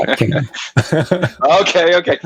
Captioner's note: laughs